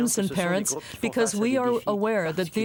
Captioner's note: speaking French